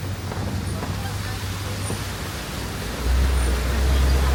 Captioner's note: water roaring